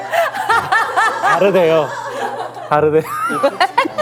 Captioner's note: whimpers